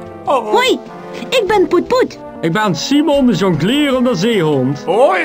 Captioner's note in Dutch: Limburgs accent